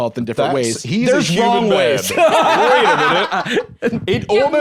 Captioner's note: laughs